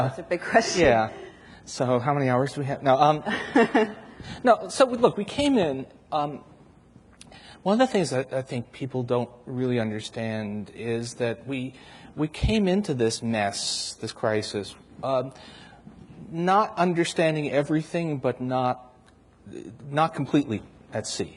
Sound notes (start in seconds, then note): 3.2 laughs